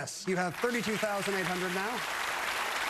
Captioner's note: applause